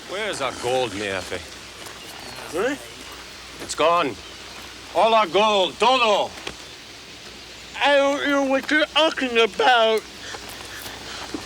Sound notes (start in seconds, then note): 6.2 speaks Spanish